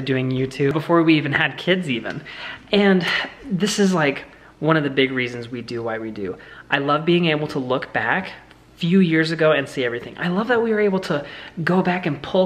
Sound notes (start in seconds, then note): none